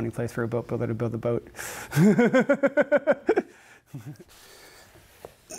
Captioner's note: laughs